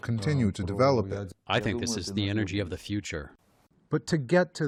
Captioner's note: through translator